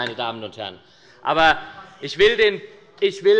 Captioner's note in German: Zurufe von der SPD